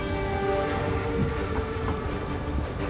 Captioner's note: train whistle blows